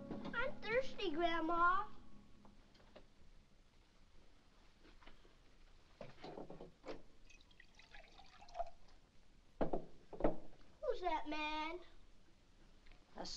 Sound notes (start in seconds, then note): 0.0 soft ominous music; 7.2 liquid pours